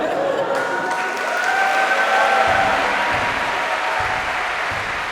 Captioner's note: خنده; تشویق، تشویق